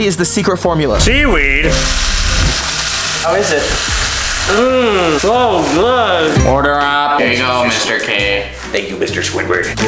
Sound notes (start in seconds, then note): 1.2 grill sizzling